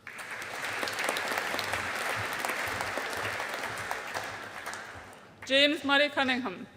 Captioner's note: audience applauding